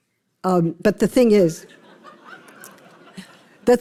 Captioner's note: laughter